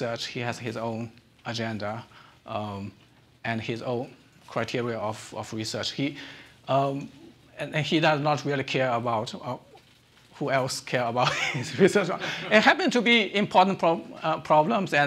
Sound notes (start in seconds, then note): 11.2 chuckles